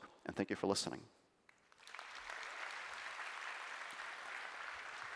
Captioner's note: applause